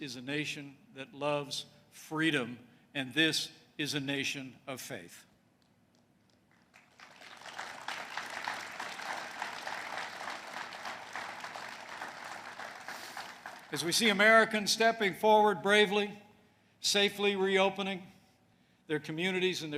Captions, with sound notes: is a nation that loves freedom, and this is a nation of faith. (applause) As we see Americans stepping forward bravely, safely reopening their communities and